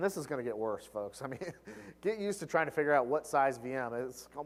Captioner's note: laugh